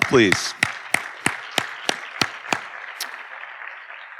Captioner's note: audience applauding